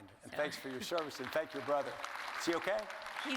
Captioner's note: audience applauding